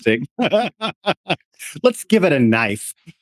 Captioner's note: laughing